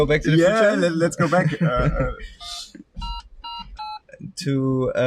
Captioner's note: laughs; machine beeping